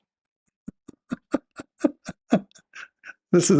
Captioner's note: Ketawa